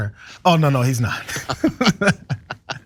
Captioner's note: laugh